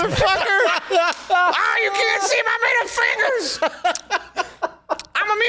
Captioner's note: laugh Crying